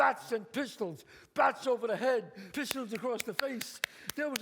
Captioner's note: claps